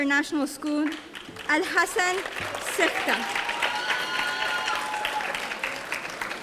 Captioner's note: audience applauding